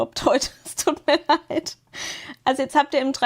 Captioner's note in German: gelächter